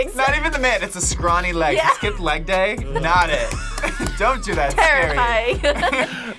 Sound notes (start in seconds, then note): 1.5 group laughs; 5.6 both laugh